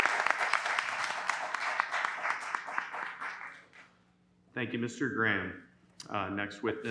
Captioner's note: applause